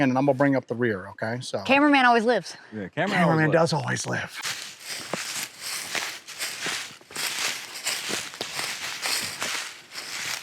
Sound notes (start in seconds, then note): 4.4 leaves crunching